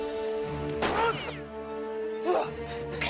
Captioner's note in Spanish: Disparos